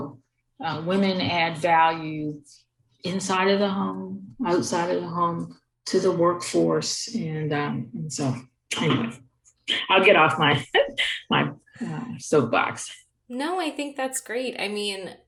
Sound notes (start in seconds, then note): 10.8 chuckle